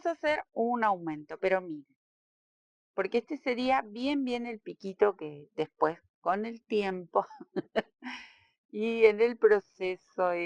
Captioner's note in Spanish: risas